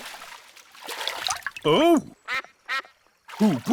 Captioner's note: quacks